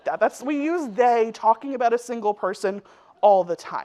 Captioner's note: none